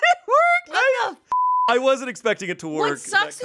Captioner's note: beep